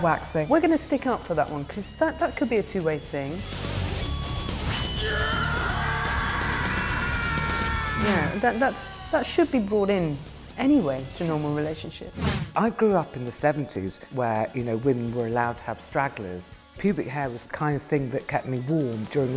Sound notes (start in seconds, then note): 4.9 screams